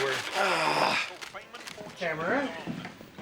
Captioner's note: grunts